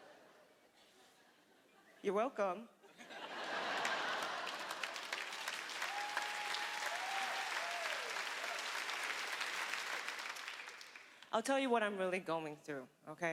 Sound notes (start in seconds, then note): 2.8 laughter; 4.3 applause